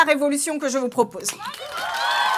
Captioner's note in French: Applaudissements